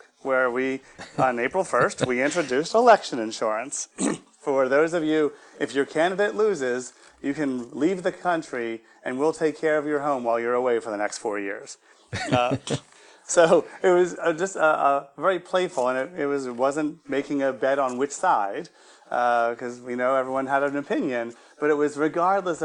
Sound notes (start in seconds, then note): 12.1 laughing gently